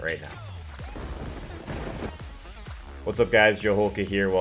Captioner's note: thunder crash